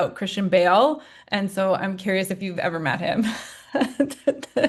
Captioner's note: laughing